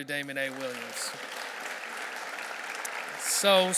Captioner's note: audience clapping